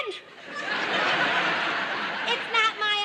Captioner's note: audience laughter